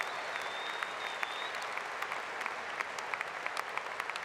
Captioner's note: applause